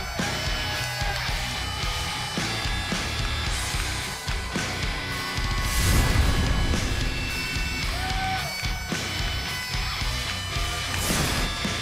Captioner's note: cheers and applause